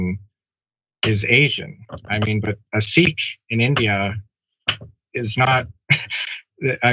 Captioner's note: laugh